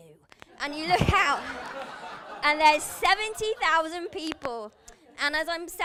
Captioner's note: laughter